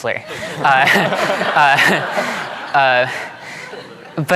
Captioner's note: all laughing